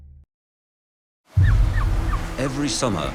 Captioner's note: birds squawking